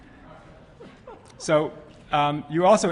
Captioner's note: laughter